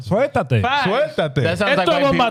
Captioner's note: speaking In Foreign Language